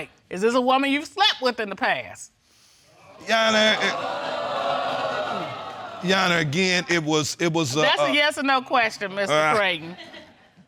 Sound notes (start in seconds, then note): 3.2 audience exclaiming; 3.8 stammering